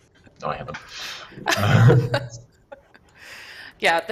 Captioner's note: laughter